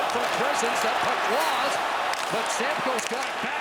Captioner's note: chanting